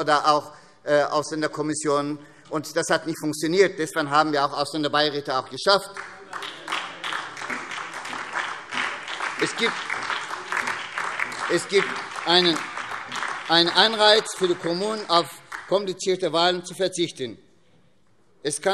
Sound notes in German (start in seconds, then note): 6.8 Beifall SPD und DIE LINKE